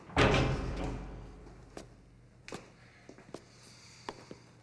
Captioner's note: door clatters